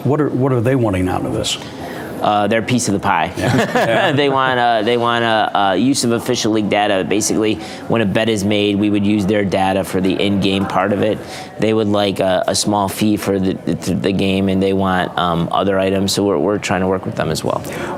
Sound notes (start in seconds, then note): 3.4 laughing